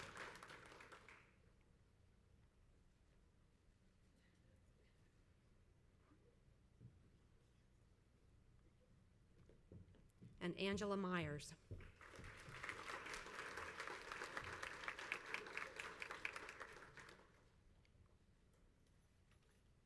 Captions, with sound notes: And Angela Meyers. (crowd applauds)